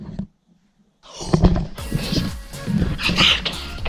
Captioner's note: gasps